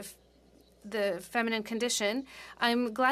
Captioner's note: speaking French